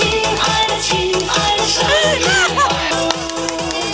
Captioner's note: laughter